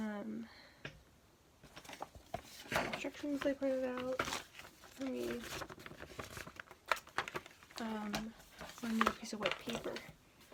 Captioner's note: paper rips off camera